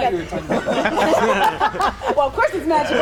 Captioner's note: all laugh